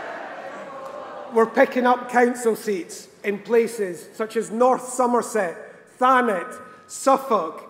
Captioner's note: cheering